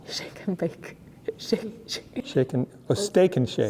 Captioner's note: laughs